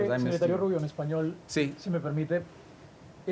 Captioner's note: speaking spanish